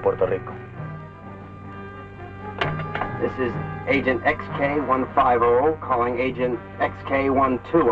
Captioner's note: Colonel Cabeza speaking in Spanish